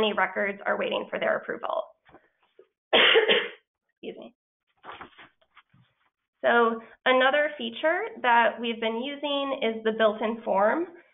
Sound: cough

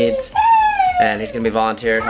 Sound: child crying

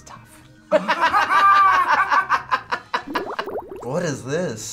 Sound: both laugh

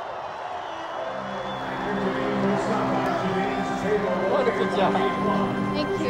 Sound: crowd cheers and applause

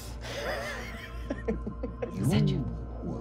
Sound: laughing

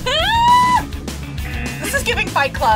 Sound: laughs; buzzer sounds

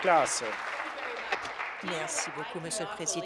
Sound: applause

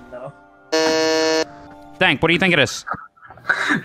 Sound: buzzes

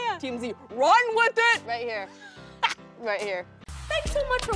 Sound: laughs

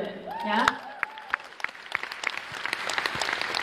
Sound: applause

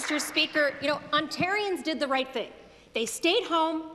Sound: applause

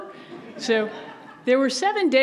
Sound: audience laughs

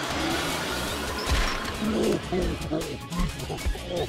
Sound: moaning

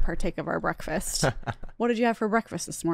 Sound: laughs

